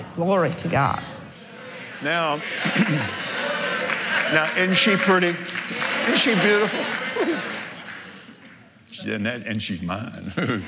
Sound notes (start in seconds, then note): 4.7 cheering